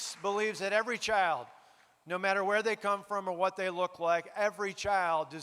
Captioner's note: applause